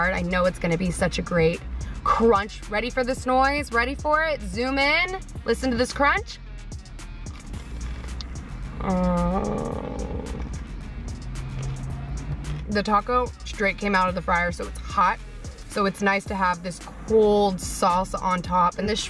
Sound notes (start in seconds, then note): 7.2 crunching; 7.3 mming